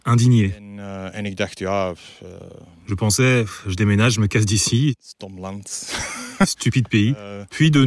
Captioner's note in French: rires